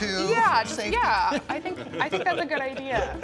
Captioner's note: chuckling